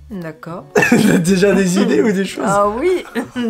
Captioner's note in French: rire nerveux